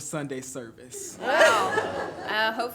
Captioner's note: everyone laughs